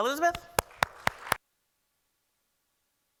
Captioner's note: applause